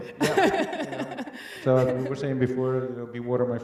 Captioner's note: laughs